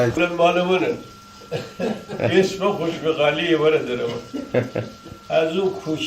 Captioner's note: laughing